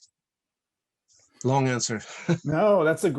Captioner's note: chuckles